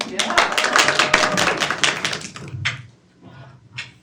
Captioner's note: students clap